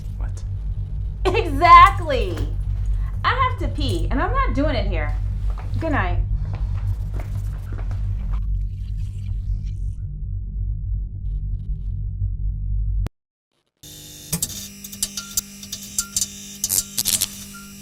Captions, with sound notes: - What? - Exactly. I have to pee and I'm not doing it here. Goodnight. (footsteps patter) (electricity buzzes)